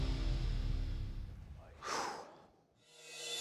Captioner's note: exhales sharply